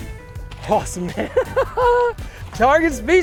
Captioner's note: laughs